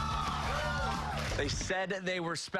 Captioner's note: cheers and applause